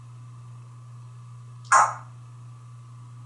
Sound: cluck

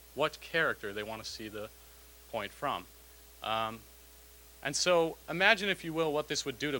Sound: none

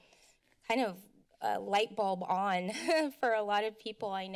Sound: giggles

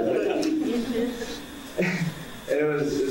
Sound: audience laughing

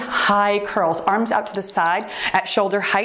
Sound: timer beeps

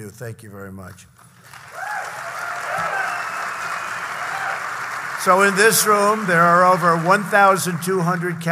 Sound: applause

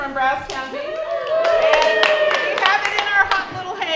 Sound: cheering

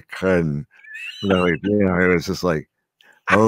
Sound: laughing

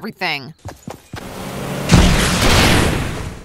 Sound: boat engine roaring; bomb explodes

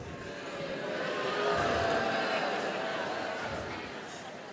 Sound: booing

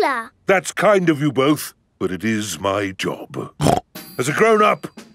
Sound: snorts

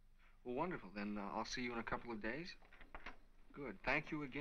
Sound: door Closes

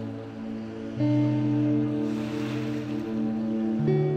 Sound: water crashing

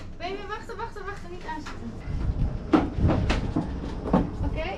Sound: speaking foreign language

